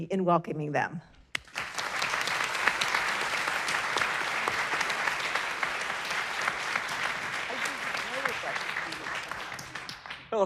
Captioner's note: applause